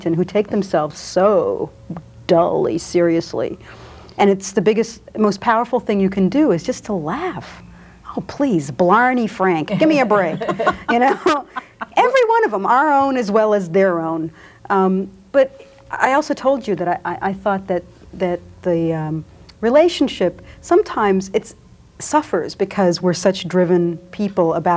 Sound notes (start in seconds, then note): 9.7 group laughs